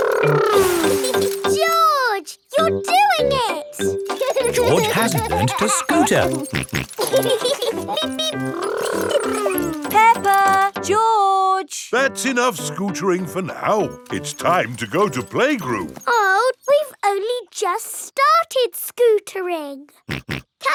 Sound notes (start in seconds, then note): 4.2 george laughing; 7.4 both laughing; 20.6 snorts